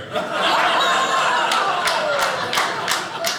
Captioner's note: audience laughing